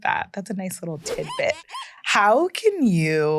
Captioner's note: squeegee squeaking